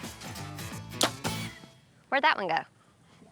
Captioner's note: arrow shot